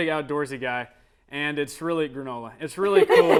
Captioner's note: laughter